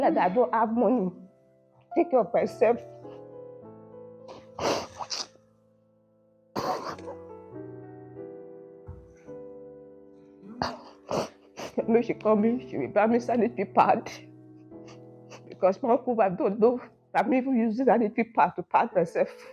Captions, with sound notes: (crying).. She buys me sanitary pads too. My uncle's wife didn't even care if I needed them.